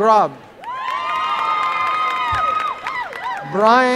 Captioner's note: applause and cheering